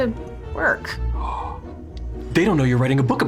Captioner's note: gasps